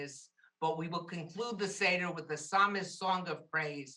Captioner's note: Hebrew